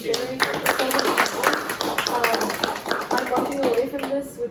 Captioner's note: applause